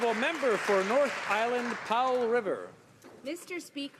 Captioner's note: applause